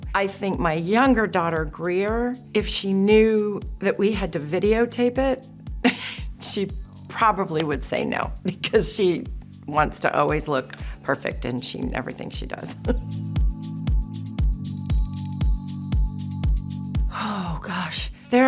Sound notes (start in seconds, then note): 5.9 chuckles; 12.6 chuckles; 12.7 slow jazz music